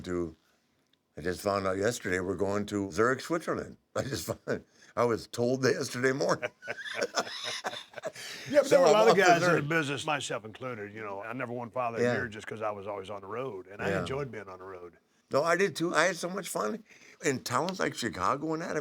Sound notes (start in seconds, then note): 6.2 laugh